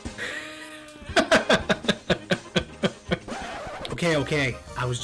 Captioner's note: laughing